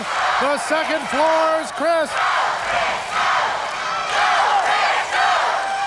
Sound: crowd chanting "go, Chris, go"

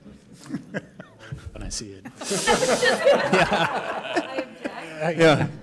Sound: laughter

